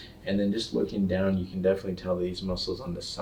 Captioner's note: none